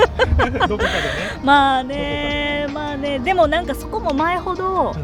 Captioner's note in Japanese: 笑い; 息をのむ音